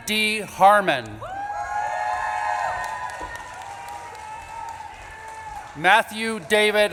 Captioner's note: audience claps and cheers